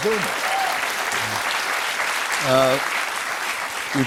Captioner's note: cheers and applause